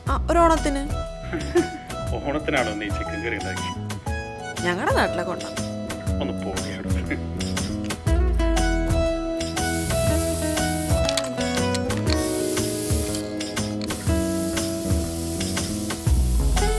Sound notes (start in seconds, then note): 4.1 laughs